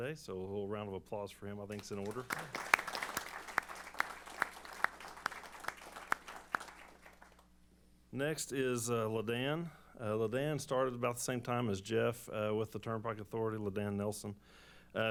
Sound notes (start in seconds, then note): 1.7 applause